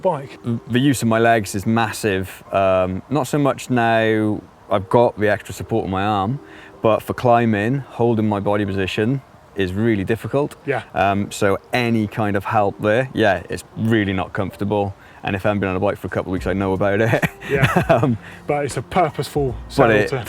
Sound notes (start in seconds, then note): 17.0 man laughing